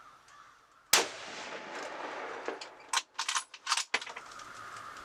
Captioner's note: gun fires